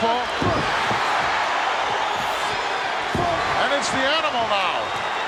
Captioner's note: audience cheers